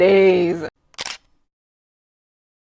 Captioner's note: camera click